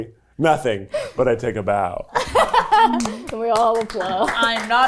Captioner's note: laughing